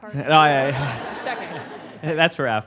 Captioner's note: laughter